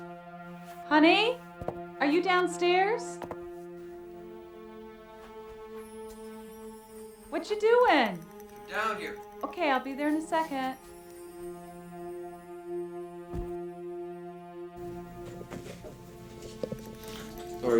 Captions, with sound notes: Honey? Are you downstairs? (tense music continues) Whatcha doin'? - Come down here. - Okay, I'll be there in a second. (tense music continues) (cat thuds) (tense music continues)